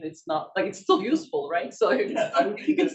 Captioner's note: chuckles